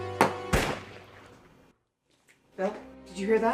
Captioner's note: gun fires